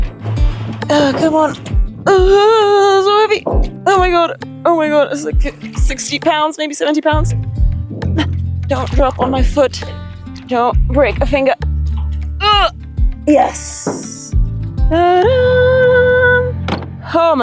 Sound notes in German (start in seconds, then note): 2.1 Grunzen; 7.5 grunzt; 12.4 grunzt